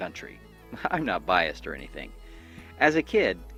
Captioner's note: laughs